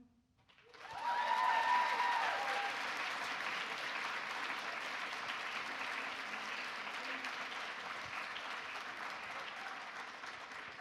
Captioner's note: applause